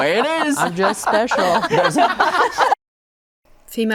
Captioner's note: guests laugh